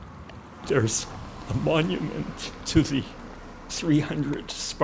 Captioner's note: voice breaking